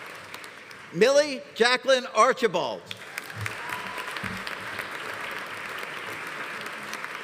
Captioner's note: audience applauding; audience cheering; audience applauding